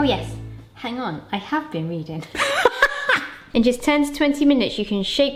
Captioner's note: laughs